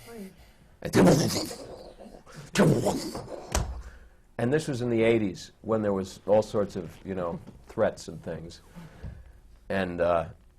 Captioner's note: sounds explosions